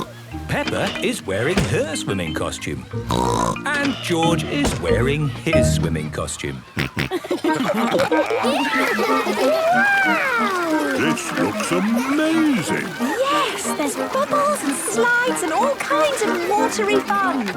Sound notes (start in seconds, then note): 0.0 snorts; 3.0 snorts; 6.7 snorting, giggling